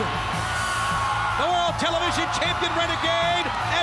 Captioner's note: crowd cheering